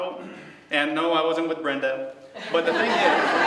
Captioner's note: laughter